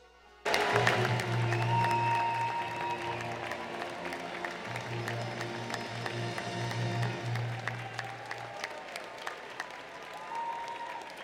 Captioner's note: applause